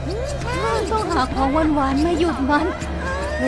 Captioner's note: Chirpchirp